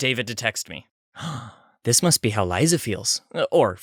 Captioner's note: gasp